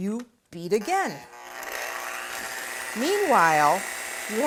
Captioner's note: whirring